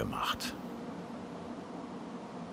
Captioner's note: continuous whirring of cooling